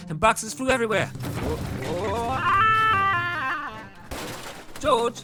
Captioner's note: crashing sounds